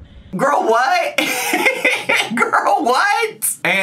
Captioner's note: laughs